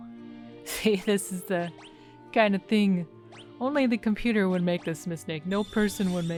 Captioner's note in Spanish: risas